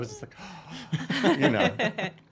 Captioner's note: gasping